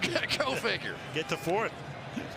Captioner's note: chuckling